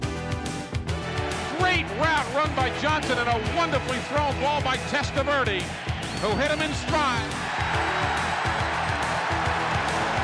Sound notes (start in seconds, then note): 7.4 cheering